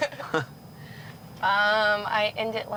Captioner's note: laughing